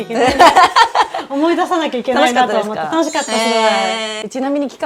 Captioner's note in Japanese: 笑い